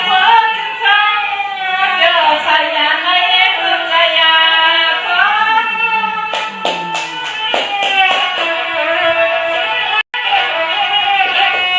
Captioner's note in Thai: ปรบมือ